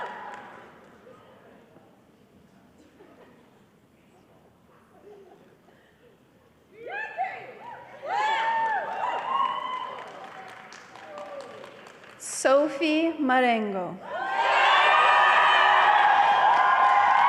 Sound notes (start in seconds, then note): 7.3 crowd cheering